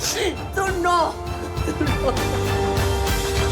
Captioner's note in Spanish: Sollozos